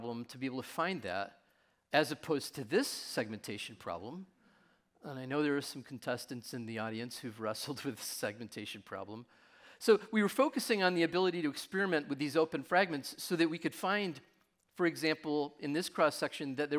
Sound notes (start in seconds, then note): none